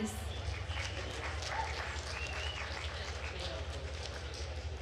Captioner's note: attendees applauding